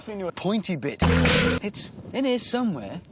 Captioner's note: stock unedited whip sound effect